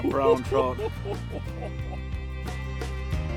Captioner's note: laughing